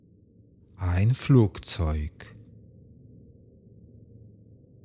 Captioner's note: german